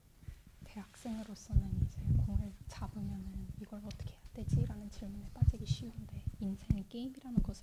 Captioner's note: translator speaking in Korean